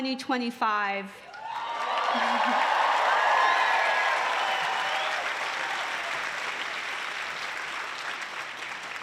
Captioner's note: applause